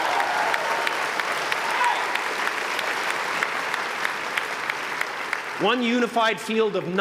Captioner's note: applause